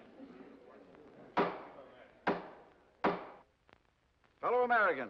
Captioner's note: gavel bangs